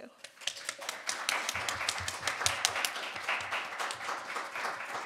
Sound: audience applauding

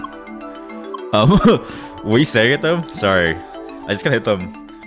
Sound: laughs nervously

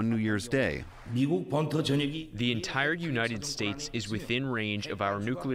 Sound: through translator

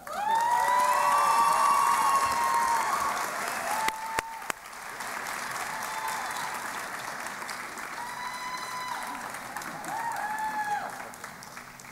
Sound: cheering and Applause

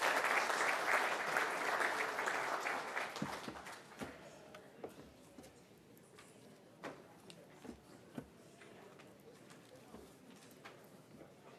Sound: applause

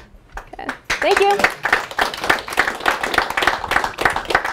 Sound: applause

